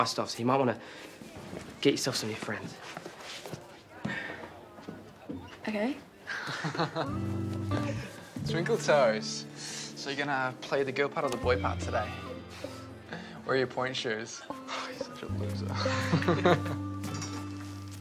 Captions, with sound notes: So you might wanna get yourself some new friends. -OK. -[Sean chuckles] Twinkletoes. Gonna play the girl part or the boy part today? -[scoffs] -Where are your pointe shoes? He's such a loser. [chuckles]